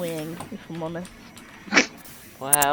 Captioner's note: laughing